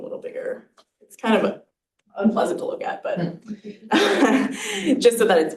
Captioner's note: chuckles